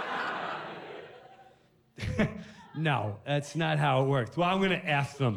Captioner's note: laughs